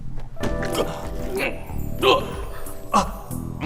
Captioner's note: sexy music; Pheidippides grunting